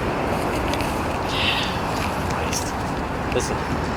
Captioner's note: sighs